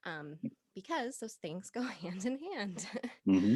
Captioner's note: laughing